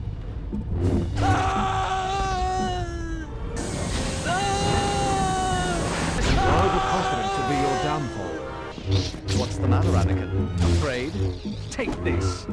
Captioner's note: Funny Anakin dying noises WAAHHHHRRGH!